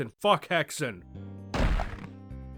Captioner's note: crack!